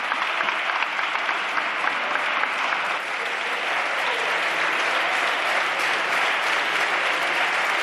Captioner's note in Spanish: Aplausos.-Rumores